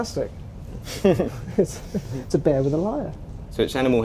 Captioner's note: laughter